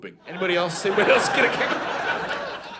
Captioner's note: audience laughing